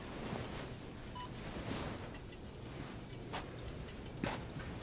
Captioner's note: barcode beeps; footsteps thudding